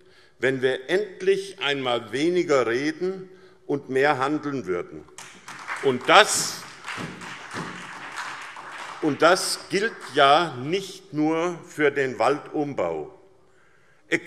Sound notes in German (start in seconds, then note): 5.1 Beifall SPD